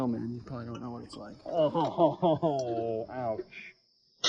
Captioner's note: chuckling